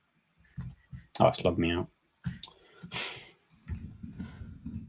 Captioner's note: chuckles